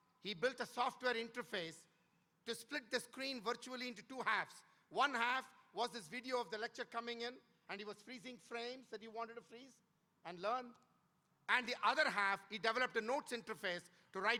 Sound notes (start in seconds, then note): none